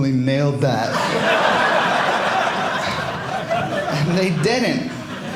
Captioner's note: audience laughing